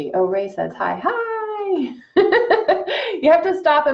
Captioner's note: laughs